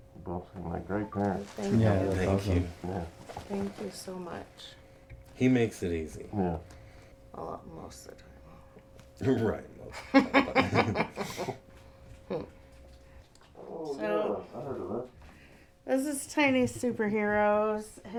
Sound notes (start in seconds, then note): 10.0 laughing